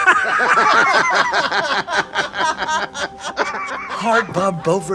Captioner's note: group laughing